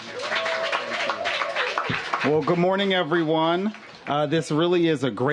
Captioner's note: applause